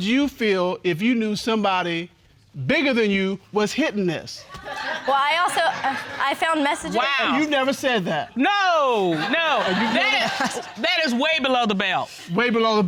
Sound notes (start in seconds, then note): 4.5 audience laughing; 8.8 audience laughing